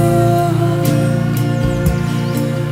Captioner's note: birds singing